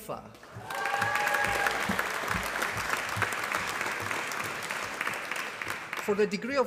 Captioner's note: applause